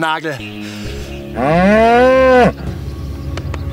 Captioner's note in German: Lautes Muhen